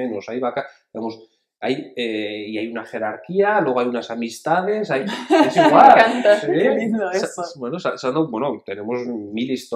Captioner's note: laughs